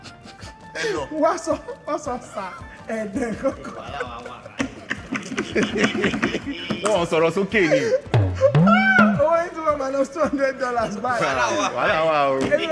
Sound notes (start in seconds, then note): 0.2 laughs; 5.3 everyone laughs